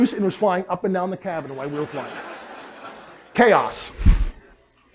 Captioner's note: laughter